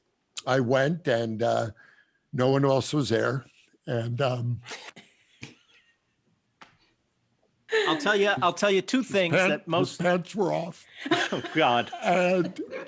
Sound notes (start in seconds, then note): 5.3 chuckling